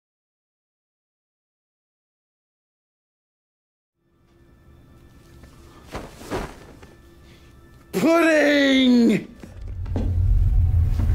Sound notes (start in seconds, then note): 7.9 shouts